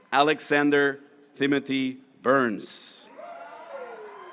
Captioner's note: graduates cheering